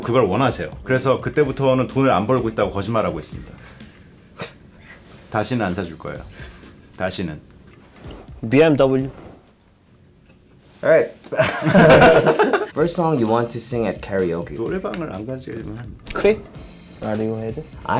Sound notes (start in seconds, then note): 11.3 laughing; 16.1 speaking in foreign language